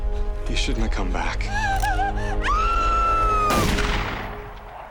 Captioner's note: gunshot; Marla gasps, screams